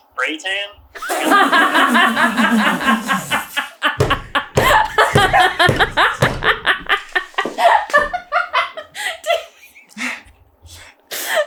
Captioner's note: spitting with laughter; cracking up hard